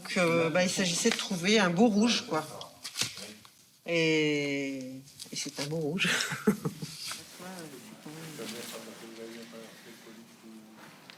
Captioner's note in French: rires